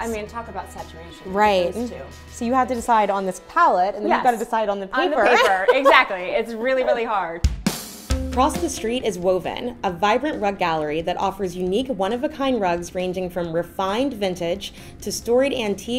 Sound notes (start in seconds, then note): 5.2 laughing; 8.0 upbeat guitar music